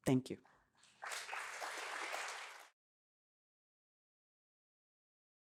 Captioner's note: applause